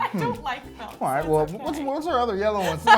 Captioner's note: laughs